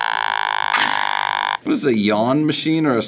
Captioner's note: beeps deeply; React laughs